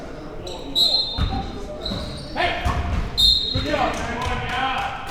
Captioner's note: whistle blowing